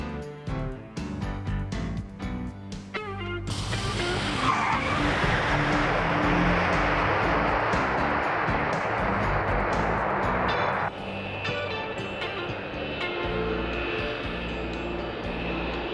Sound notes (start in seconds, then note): 3.4 tires squealing